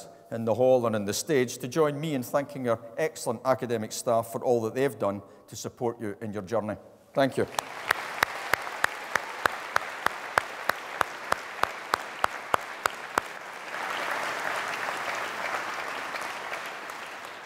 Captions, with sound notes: in the hall and on the stage to join me in thanking our excellent academic staff for all that they've done to support you in your journey. Thank you. (APPLAUSE)